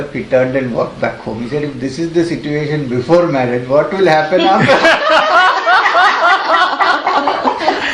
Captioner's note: laughter